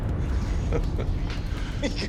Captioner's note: chuckling